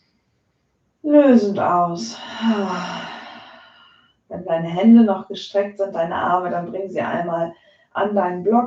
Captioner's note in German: seufzt